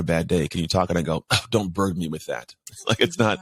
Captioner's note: laughs